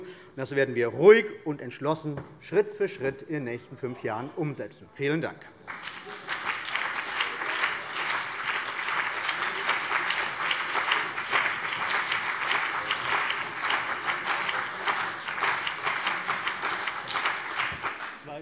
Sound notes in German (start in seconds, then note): 5.7 Beifall : Aha!